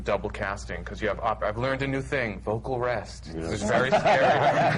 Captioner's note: laughter